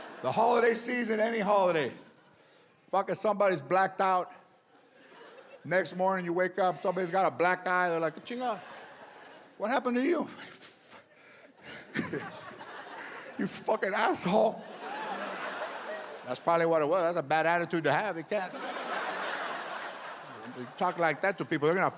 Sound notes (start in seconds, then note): 0.0 audience laughs; 11.1 breathes heavily; 15.3 audience laughs